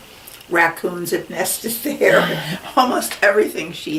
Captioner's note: laughs